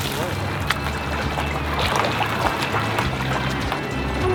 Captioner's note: male Voice; water bubbling